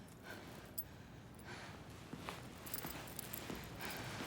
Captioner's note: Karen pants